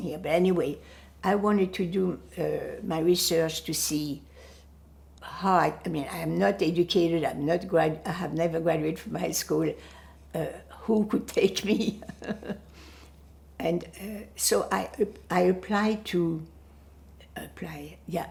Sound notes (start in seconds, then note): 11.8 laughing